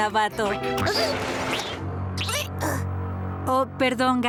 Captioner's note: caterpillar noises